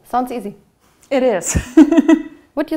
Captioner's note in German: Sie lacht